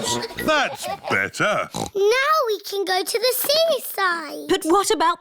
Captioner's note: oinks